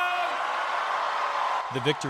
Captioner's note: cheering and applause